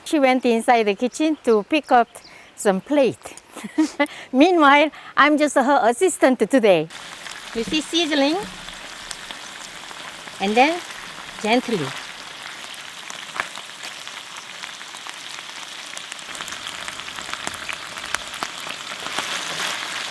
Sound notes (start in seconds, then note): 3.5 laughs